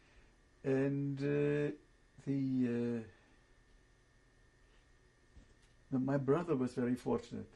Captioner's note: pauses for 3 seconds